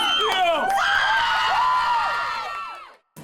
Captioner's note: cheering